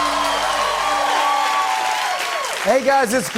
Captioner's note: cheers and applause